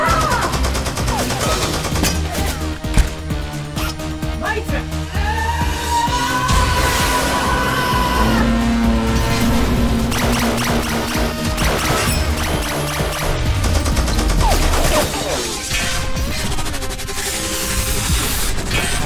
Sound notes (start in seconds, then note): 0.1 dramatic synth music; 0.2 gunfire blasting; 5.3 Azalla shouting; 10.0 gunfire blasting; 10.1 lasers chirping; 16.0 ax clangs